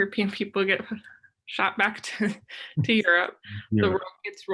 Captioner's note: chuckles